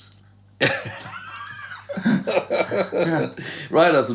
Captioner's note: laughter